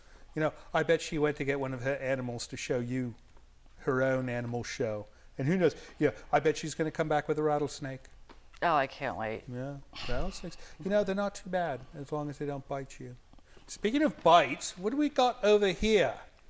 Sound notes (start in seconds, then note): none